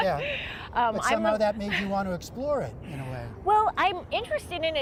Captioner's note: laughter